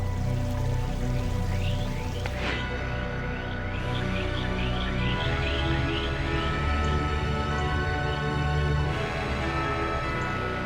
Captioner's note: water splashes